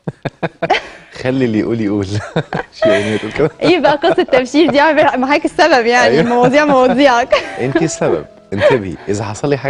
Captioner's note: laughs!